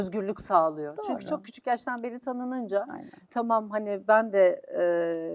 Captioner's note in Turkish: homurdanır